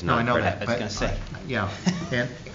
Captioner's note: laughter